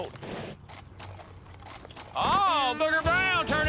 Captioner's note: hoofbeats